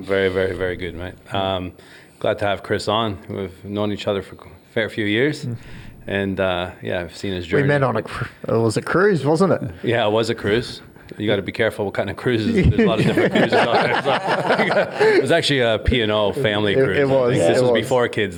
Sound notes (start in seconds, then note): 14.6 all laugh